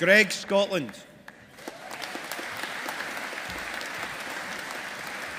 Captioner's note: audience applauding